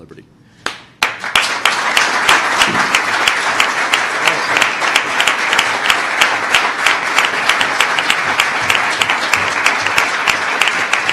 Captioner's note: applause